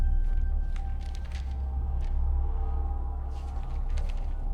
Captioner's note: papers rustling